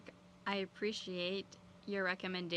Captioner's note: speaking French